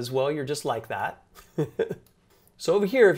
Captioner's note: chuckles